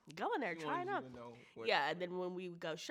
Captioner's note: speaks faintly